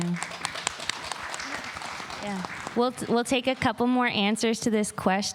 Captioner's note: applause